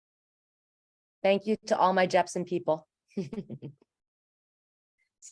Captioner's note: chuckles